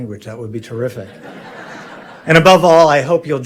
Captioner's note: audience laughing